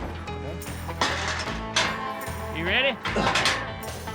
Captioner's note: gate clanking shut